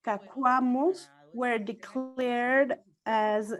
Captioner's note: speaks foreign language